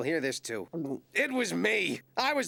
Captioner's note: gulps